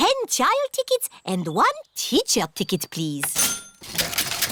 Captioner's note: cash register dings